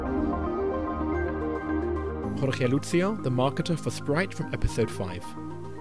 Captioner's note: voiceover